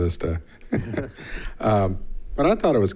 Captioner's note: people chuckling